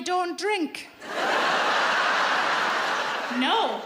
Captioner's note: audience laughs